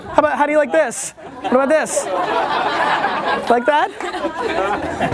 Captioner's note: laughter